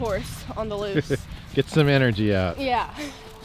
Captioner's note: laughing